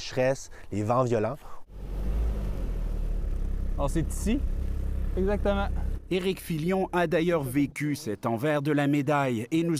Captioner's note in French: moteur